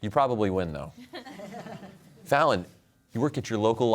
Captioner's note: laughter